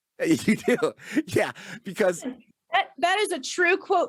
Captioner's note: laughs